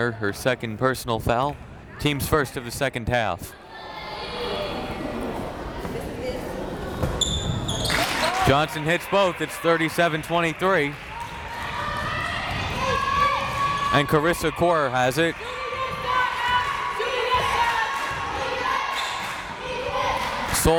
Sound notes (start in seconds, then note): 4.3 crowd members talking; 10.4 crowd members shouting; 16.5 crowd members chanting